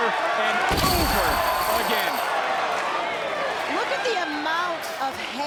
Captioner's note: table rattling